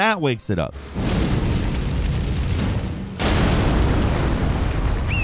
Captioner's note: fire crackles and booms